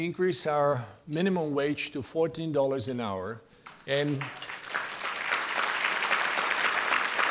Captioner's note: appaluse